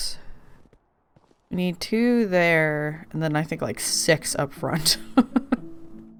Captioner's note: laughs